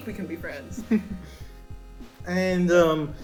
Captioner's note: laughter